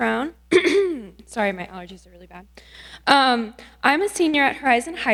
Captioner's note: coughs